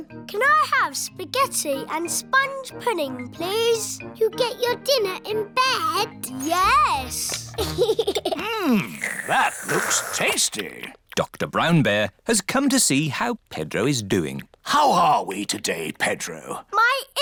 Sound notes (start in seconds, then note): 7.3 giggles